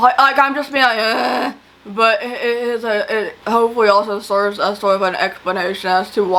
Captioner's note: grunts